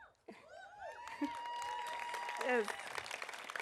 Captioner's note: audience cheering; audience applauding